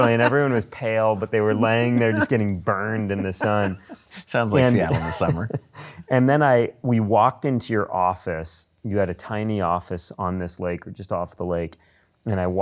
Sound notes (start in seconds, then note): 2.7 laughing